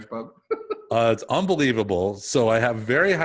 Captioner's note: laughing